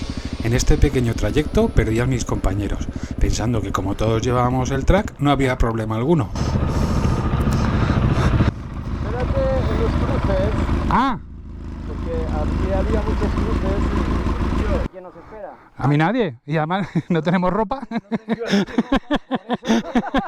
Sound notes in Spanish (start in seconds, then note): 16.7 risas